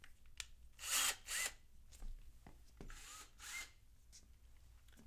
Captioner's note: drill running